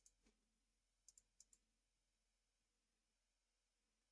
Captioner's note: mouse clicking